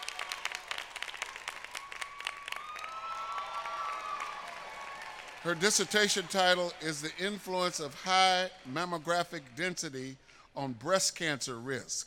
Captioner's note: applause